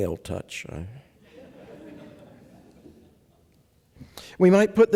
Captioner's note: laughter